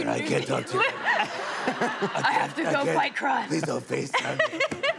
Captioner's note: laughter